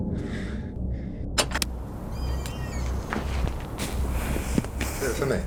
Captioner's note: door creaking